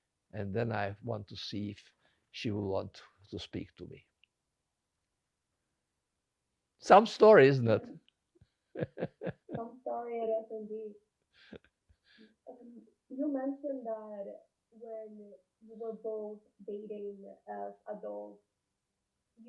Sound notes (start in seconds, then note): 8.8 laughing